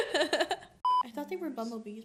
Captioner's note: laughs